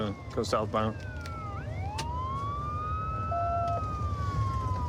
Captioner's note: sirens wailing